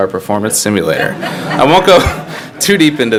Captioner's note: all laugh